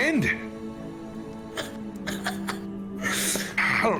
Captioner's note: laughs